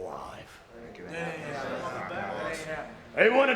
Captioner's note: group chattering